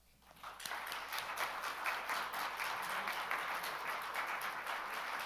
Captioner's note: attendees applaud